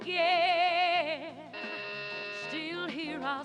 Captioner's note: doorbell buzzing